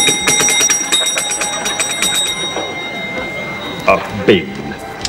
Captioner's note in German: Unaufhörliches Klingeln